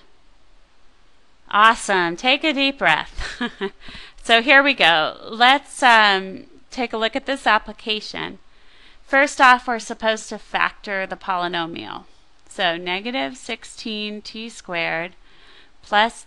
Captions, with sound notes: Awesome. Take a deep breath [chuckles]. So here we go. Let's take a look at this application. First off we are supposed to factor the polynomial. So negative 16t squared plus